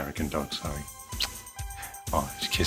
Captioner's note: kissing